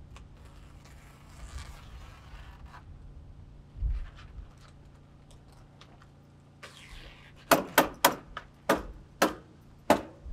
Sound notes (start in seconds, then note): 0.2 plastic ripping; 7.3 hammer banging